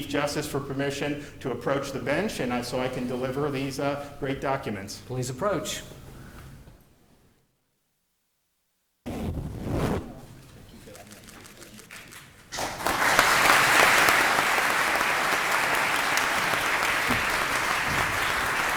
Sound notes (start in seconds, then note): 10.9 applause